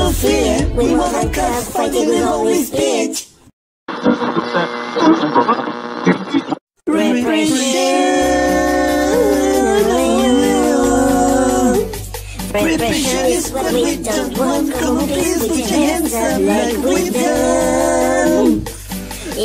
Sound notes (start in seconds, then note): 3.9 radio tuning